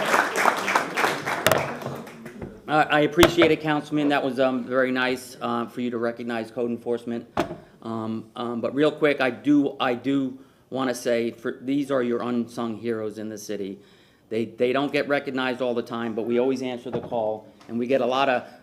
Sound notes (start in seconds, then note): 3.0 applause